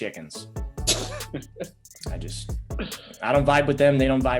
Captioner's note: laughs